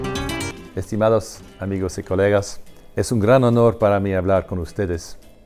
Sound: speaks Spanish language

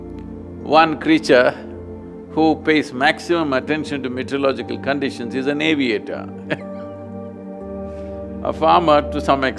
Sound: laughs

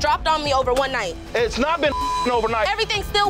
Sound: beep

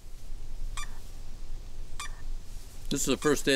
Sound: device beeping

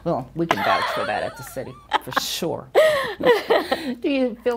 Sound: chuckles

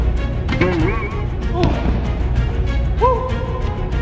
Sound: spring noise

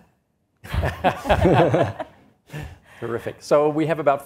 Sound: all laughs

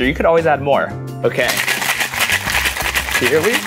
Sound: ice shaking

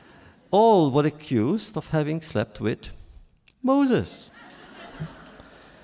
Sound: laughter

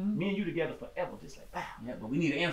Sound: exclaims

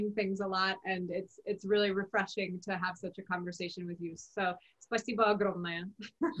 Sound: speaks Russian

